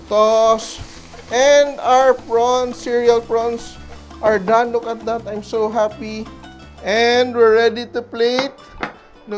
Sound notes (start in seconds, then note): 0.0 sizzle; 8.6 clang